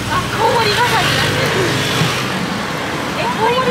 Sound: laughs

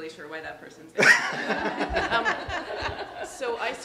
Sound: all laughing

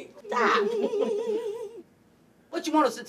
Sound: laughing

